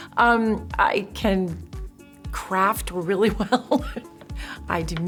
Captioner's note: chuckles